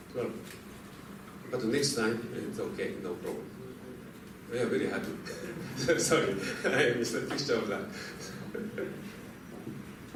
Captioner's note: laughter